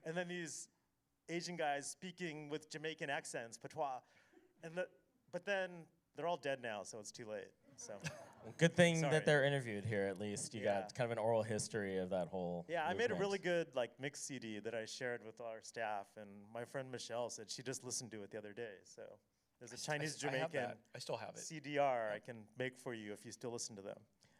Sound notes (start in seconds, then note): 3.6 foreign language